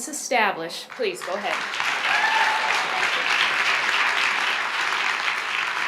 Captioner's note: audience applauds